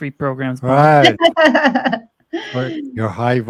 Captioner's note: chuckles